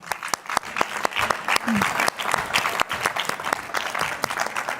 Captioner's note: audience applause